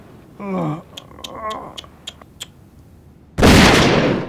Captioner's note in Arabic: ينقر اللسان